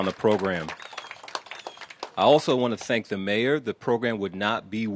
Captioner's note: applause